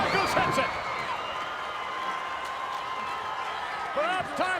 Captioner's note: audience cheering